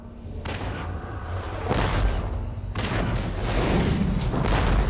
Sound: digitized landslide sounds

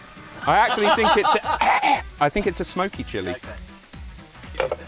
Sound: coughing

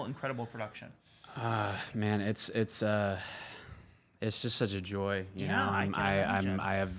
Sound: exhales

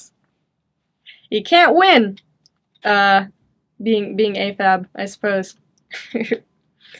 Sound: chuckles

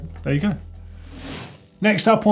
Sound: bike wheel whirring

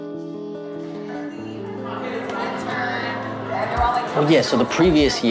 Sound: crowd chattering

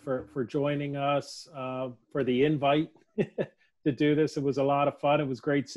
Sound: laughs

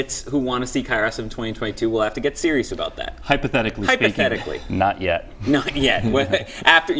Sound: laughter

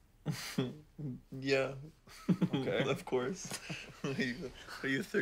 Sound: laughing

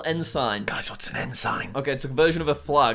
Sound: whisphers

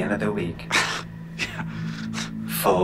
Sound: chuckles

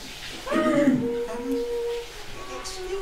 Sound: clears throat

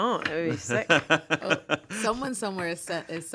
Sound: laughs

